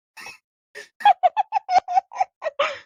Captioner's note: laughing